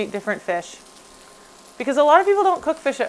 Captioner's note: fish sizzling